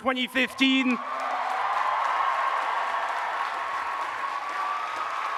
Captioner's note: audience cheers and applauds